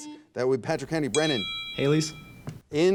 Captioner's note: loud beep